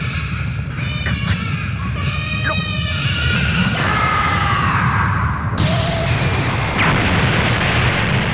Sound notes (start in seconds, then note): 3.8 screaming